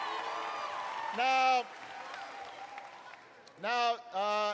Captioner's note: applause